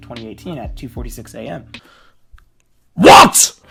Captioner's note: inhales